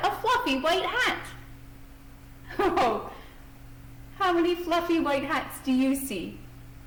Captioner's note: laugh